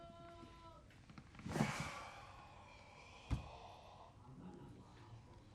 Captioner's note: sighs